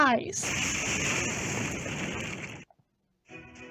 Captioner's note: crushing sounds